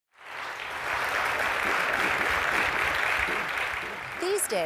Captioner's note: applause